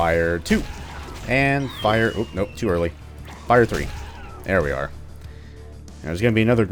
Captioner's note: thwack; whiff; thwack